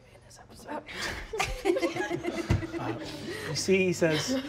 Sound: laughing

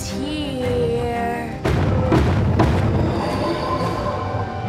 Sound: knocking

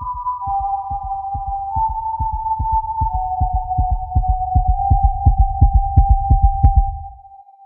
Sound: Death's Whistle

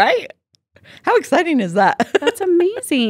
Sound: laughs

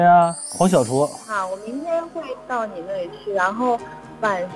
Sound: A gentle voice

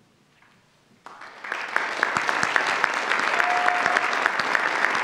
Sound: audience applauds

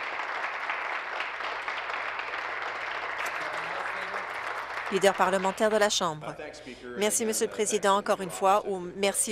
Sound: applause

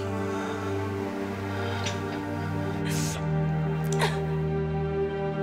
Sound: crying

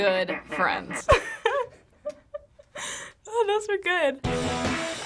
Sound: laughing; punk rock music

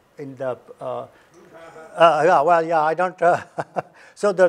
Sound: laughs

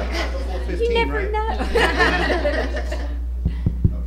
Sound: laughter

